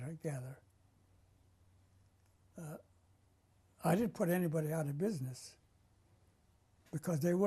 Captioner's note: pauses for 3 seconds